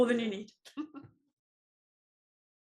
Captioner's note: laugh